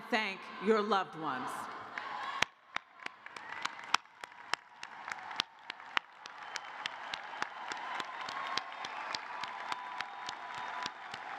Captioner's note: cheers and applause